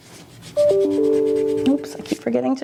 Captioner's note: phone dings